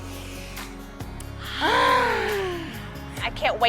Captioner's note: both inhale